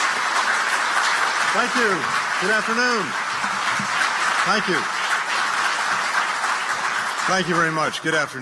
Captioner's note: applause